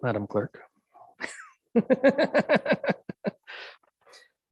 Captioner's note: mayor laughs